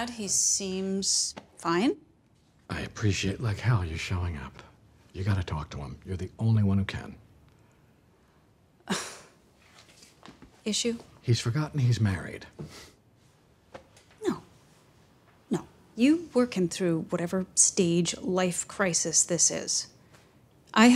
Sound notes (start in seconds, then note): 9.7 sighs